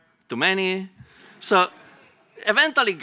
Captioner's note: laughter